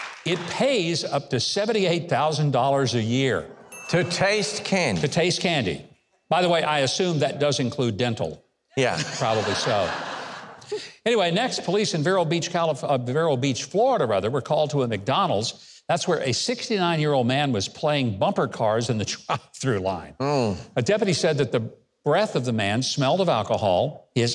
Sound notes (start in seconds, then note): 8.8 audience laughing